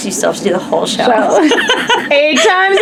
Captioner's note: laughs